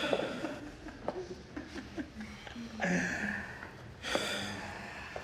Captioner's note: footsteps tapping